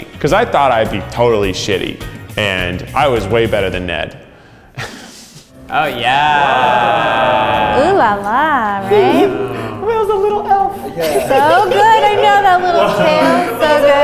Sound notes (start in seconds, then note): 5.0 chuckles; 5.4 sounds of amazement; 10.7 giggles